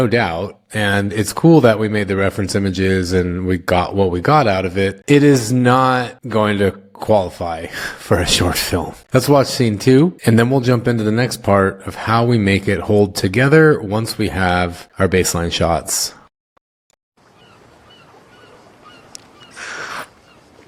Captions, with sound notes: doubt, and it's cool that we made the reference images and we got what we got out of it, it is not going to qualify for a short film. Let's watch scene two and then we'll jump into the next part of how we make it hold together once we have our baseline shots. (Birds Chirping)